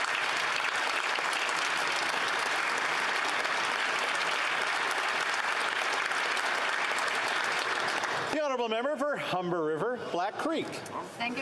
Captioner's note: some Applause